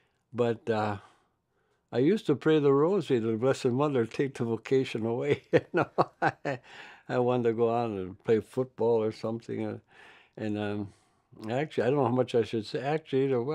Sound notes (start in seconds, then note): 5.4 laughs